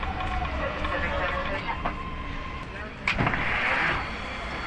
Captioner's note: people chattering